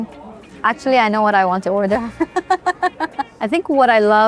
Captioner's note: laughs